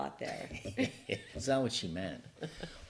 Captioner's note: laugh